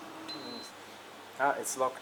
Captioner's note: button beeps